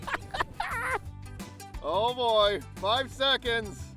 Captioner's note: laughing